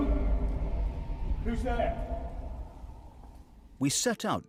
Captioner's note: ghostly sound gets louder